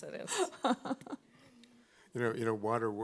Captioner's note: laughing